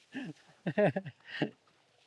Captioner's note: laughter